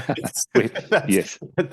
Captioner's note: both laughing